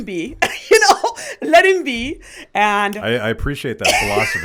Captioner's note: laughs